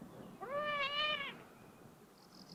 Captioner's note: meow